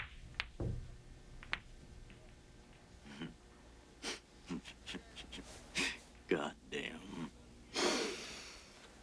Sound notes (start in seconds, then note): 4.4 chuckles